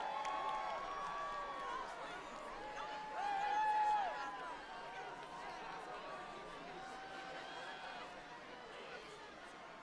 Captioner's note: applause